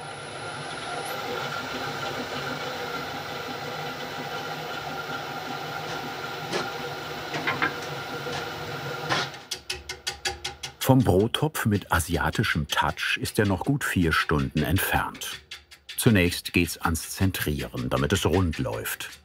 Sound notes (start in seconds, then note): 0.7 machine whirring; 9.3 rhythmic clacking